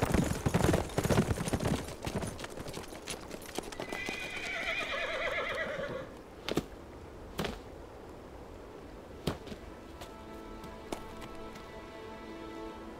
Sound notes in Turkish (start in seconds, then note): 3.8 At kişniyor; 7.8 Rüzgâr esiyor